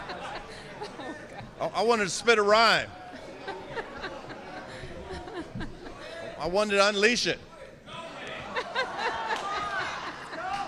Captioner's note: laughter